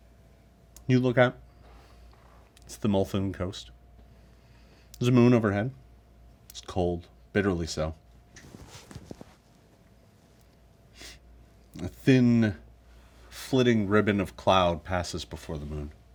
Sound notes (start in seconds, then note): none